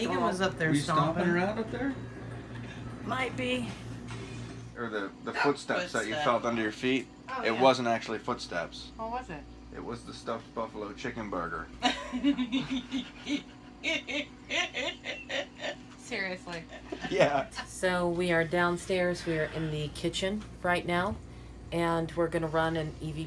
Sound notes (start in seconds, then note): 11.8 laughter